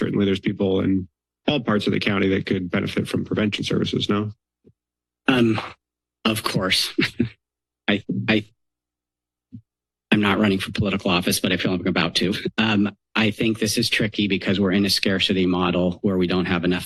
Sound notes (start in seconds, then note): 6.8 chuckles